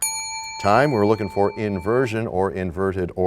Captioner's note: bell rings, time expires